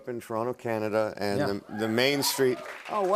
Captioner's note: cheers and applause